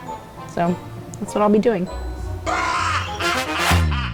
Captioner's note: maniacal laugh; upbeat music